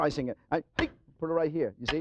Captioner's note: slams knife